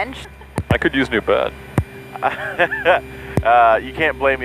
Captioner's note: laughing